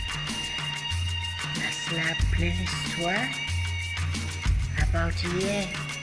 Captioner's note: speaking in foreign language